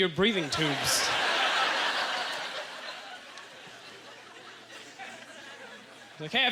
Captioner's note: audience laughter